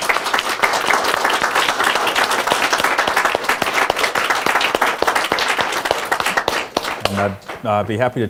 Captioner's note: applause